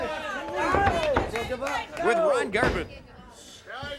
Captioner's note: crowd chatter